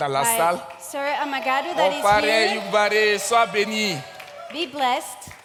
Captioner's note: continues in French; continues in French